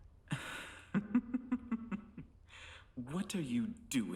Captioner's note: Hindley laughing